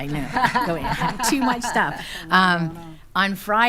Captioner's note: laughing